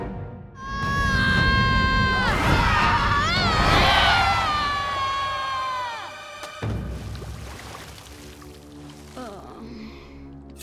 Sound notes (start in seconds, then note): 0.6 screaming; 8.4 groaning